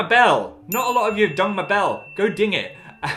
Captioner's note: bell dings